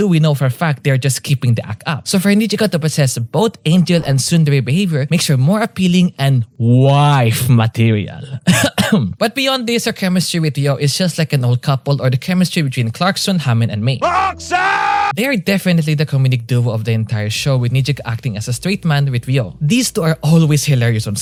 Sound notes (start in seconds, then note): 8.3 cough